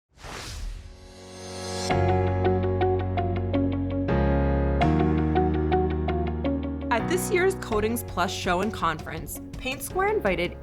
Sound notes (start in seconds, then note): 0.1 whooshing sound